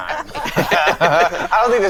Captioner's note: all laughing